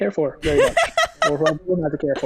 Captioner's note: laughs